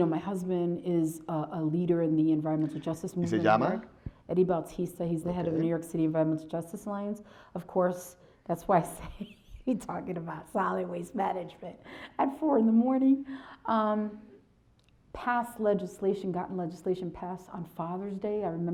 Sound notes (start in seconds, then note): 3.3 speaks foreign language